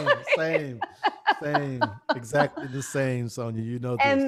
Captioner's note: laughs